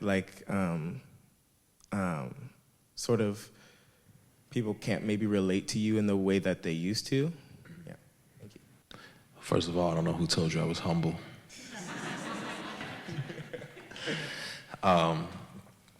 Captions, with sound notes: like sort of people can't maybe relate to you in the way that they used to? - First of all, I don't know who told you I was humble. (audience laughs)